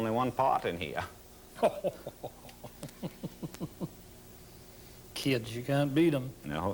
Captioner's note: laughs